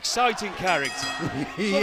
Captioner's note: bell ringing